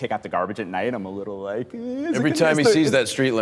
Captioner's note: squealing